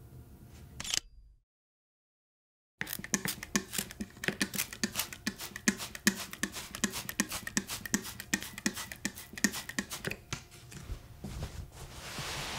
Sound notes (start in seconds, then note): 0.8 sounds of a camera taking a picture; 4.3 sounds of a squirt bottle spraying; 10.8 sounds of a towel cleaning the table